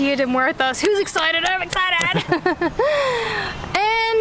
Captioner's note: laughter